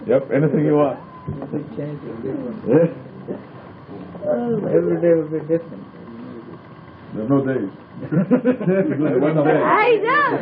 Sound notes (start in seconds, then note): 8.0 laughing